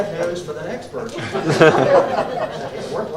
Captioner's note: laughter